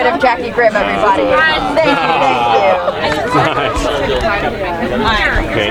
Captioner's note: people chattering